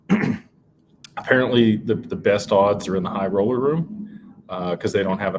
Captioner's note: clears throat